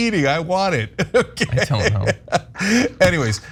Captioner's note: laugh